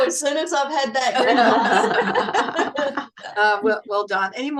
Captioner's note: everyone laughs